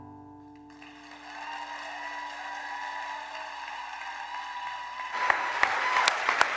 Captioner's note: cheers and applause